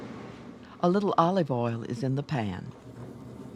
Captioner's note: voiceover